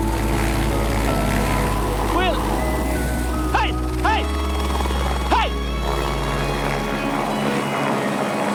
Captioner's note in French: bruit de l'hélicoptère